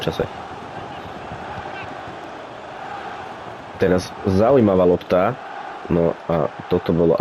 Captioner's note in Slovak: Potlesk